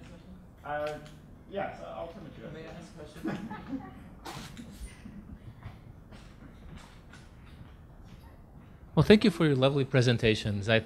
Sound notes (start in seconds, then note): 3.1 laughing